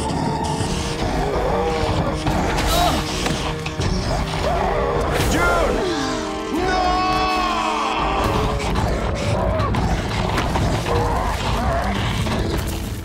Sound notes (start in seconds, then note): 2.3 groaning